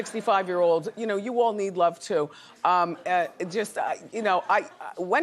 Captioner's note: laughs